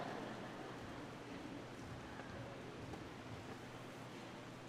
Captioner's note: audience laughing